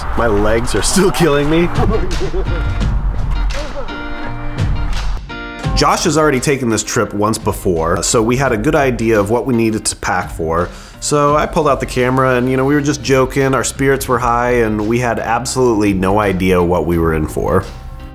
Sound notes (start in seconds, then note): 1.1 chuckles